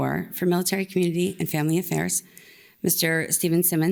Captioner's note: none